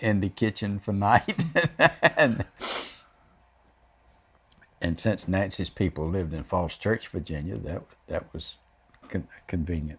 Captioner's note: laughs